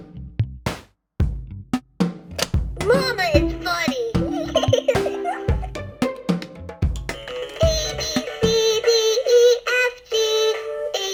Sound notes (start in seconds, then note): 2.3 toy snapping; 4.2 laughs